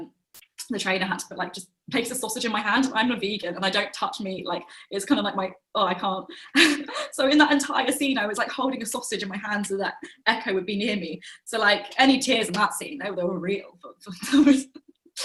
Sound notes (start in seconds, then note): 6.4 laughs; 14.2 chuckles